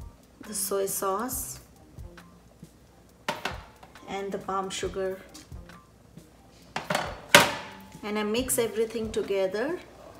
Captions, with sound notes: The soy sauce. (dish scuffling) And the palm sugar. (dish clanking) And I mix everything together